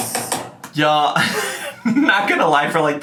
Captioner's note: laughing